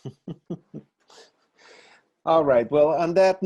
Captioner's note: laughs